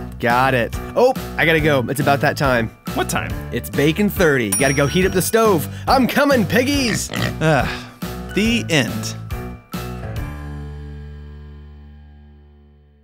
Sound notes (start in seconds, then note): 6.8 sighs; 9.4 playful music